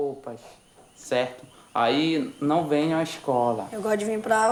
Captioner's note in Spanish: <i>habla en portugués</i>